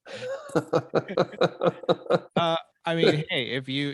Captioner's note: both laughing